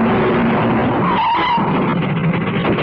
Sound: brakes squeal

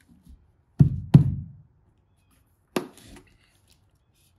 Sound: fist thumping

